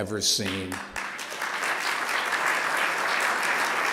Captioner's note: applause